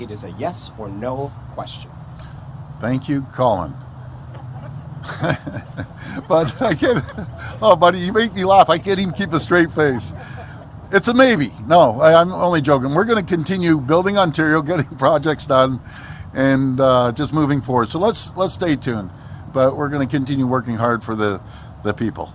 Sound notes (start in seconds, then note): 6.0 laughter; 6.7 laughs